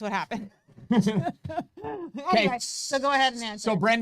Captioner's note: both chuckle